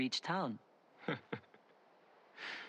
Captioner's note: laughs